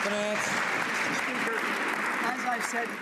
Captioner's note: some Applause